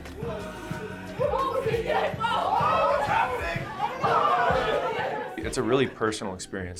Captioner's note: group cheering and laughing